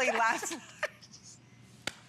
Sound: laughter

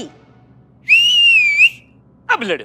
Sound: whistles

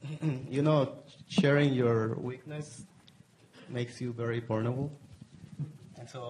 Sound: cough

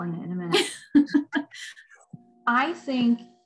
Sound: laughter

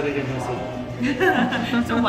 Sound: laughs

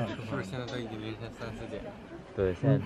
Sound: talking nonsense

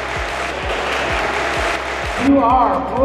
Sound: applause

